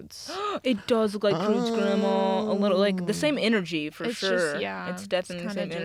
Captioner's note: gasps